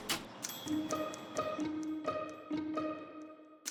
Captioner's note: typewriter sounds